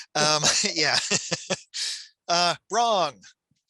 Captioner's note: laughs